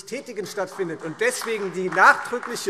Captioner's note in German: Beifall SPD